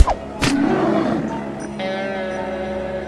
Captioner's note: arrow whistles; growling